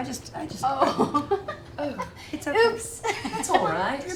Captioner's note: laughs